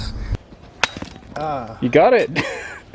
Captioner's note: metal clanks